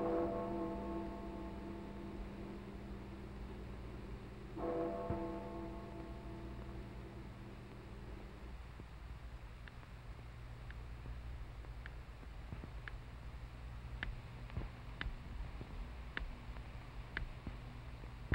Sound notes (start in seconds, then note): 13.8 ticking